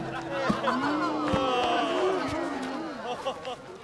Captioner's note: booing